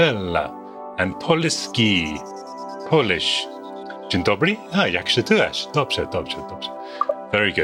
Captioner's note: speaks foreign language; speaks foreign language